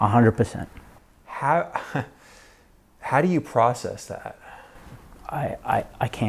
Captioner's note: chuckles